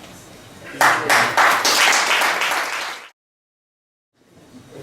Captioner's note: guests applaud